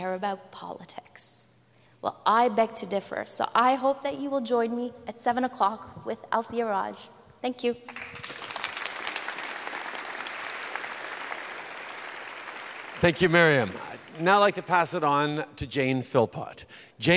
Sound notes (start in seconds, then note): 8.6 applause